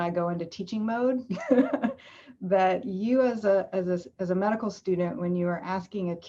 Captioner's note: laughs